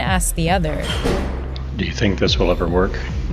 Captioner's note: soundbite of archived recording